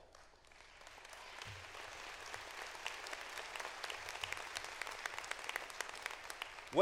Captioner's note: applause